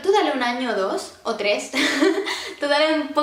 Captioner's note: giggles